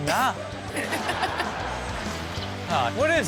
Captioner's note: and audience laughs